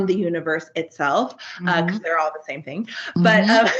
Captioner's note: giggles